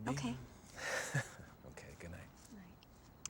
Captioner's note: chuckles